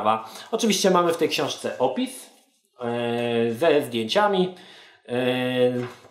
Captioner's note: stutters